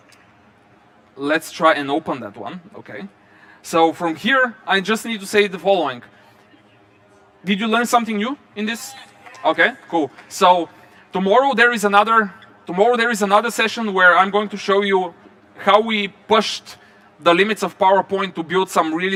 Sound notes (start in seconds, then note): 9.1 applause